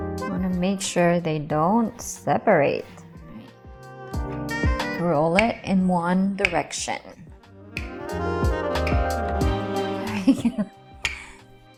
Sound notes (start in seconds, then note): 7.3 rolling pid thudding; 9.9 chuckling